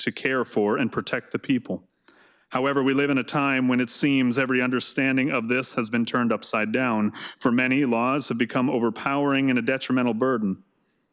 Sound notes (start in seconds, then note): none